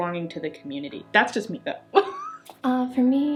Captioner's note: laughs